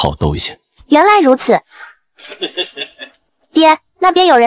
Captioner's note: chuckles